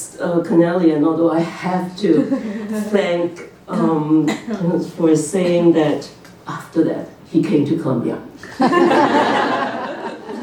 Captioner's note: laughter